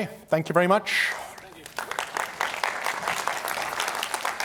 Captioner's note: applause